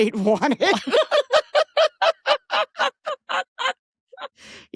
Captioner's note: laughing